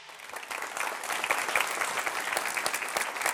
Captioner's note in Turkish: alkış